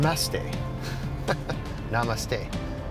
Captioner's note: chuckle